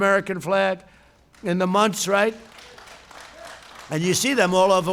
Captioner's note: applause